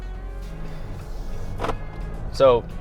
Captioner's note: car engine roaring; upbeat music